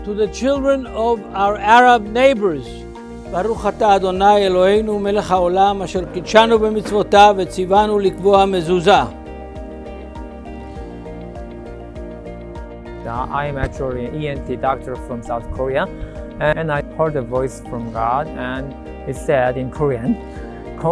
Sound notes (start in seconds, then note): 3.3 speaking in Hebrew